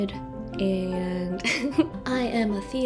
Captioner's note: laughter